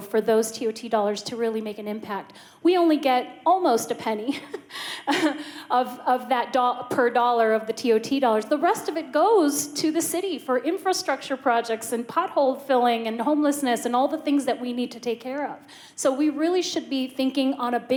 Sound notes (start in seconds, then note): 5.0 laughter